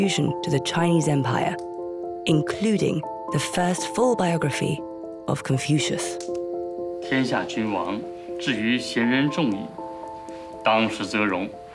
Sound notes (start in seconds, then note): 7.1 speaking Chinese